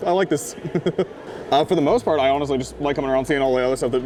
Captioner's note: laughs